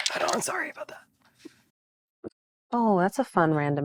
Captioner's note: dice rattling